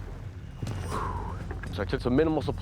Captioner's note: exhales